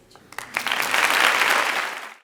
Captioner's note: audience applause